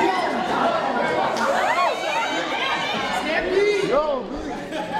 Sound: all clamoring

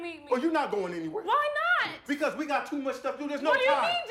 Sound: none

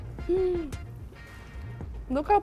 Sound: gasps

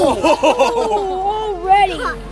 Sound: laughing

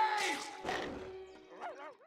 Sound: barking

